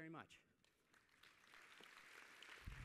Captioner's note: applause